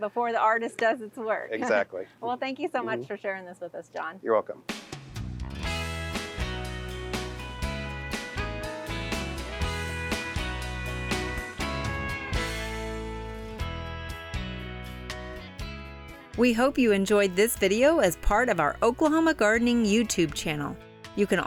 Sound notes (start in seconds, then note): 1.9 laughing; 5.6 soft upbeat music